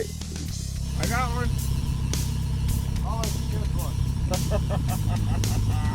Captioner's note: laughs